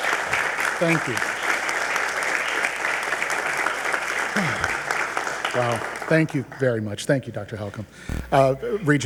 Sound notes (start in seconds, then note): 1.7 attendees applauding